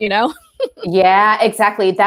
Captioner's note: chuckles